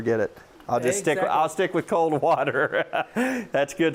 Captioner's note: laughs